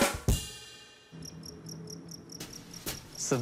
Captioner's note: crickets chirp